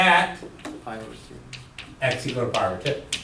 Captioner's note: voiceover